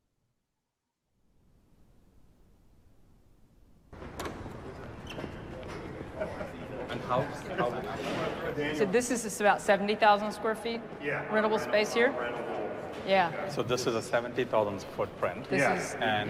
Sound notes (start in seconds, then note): 5.7 chatter